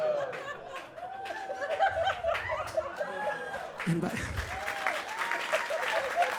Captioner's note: audience cheers and claps